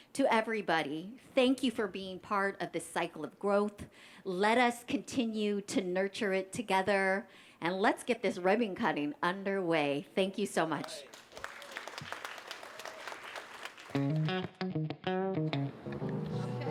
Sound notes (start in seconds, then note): 10.8 applause; 13.9 funk music